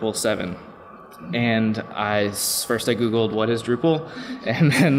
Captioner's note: laughs